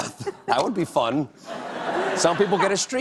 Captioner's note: laughter